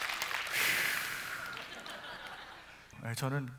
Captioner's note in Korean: 웃음